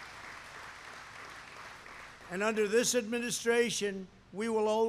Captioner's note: applause